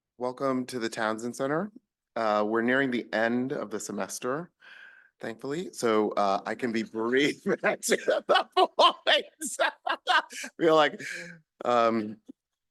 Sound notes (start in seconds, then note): 7.3 laughing